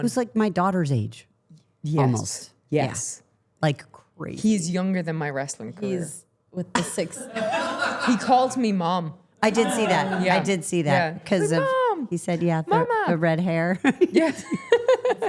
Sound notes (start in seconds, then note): 7.2 everyone laughing; 13.6 laughing